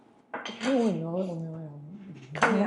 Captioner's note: simultaneous encrypted speech